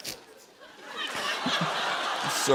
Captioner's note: laughter